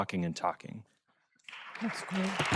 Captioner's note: applause